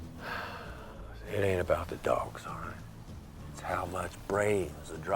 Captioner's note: sighs